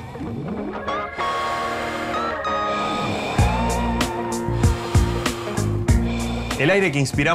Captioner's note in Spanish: Inhalaciones, exhalaciones